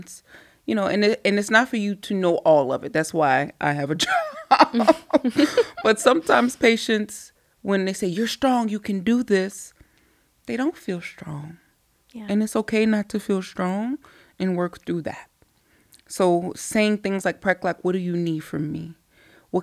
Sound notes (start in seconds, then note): 4.0 laughs